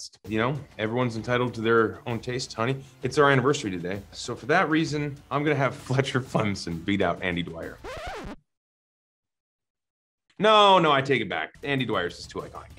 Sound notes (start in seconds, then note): 7.7 record scratching